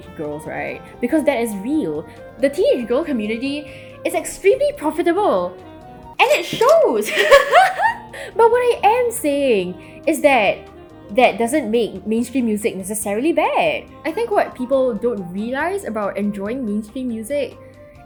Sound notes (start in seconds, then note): 7.1 laughs